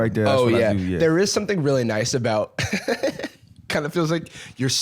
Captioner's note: laughs